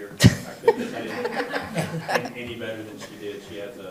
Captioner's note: laughter